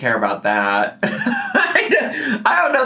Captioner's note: laughing